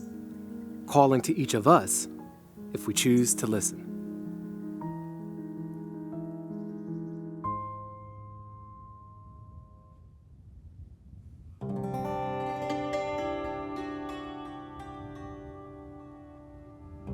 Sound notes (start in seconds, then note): 4.9 birds chirping; 4.9 light music continues; 11.7 somber music